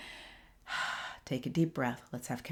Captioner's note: exhales